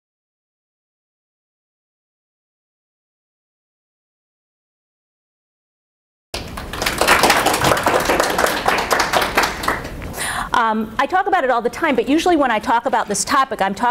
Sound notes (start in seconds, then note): 6.3 applause